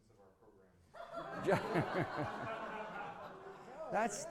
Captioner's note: laughter